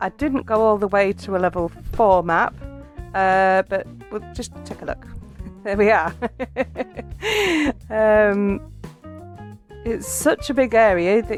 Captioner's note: laughing